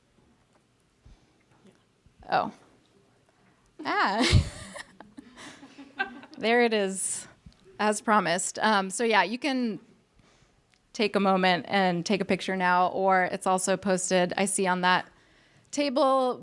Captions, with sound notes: Oh. (laughs) (audience laughs) There it is, as promised. So yeah, you can take a moment and take a picture now, or it's also posted, I see on that table